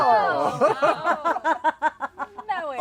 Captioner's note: laughter